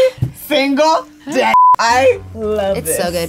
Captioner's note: beep